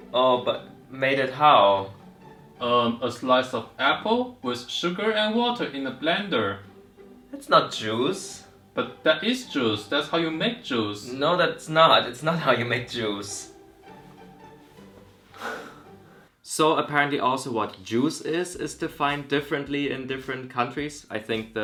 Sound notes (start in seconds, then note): 15.3 sigh